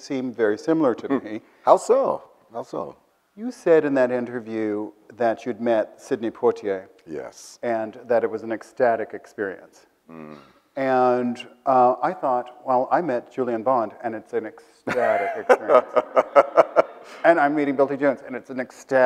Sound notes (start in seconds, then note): 14.8 Bill laughs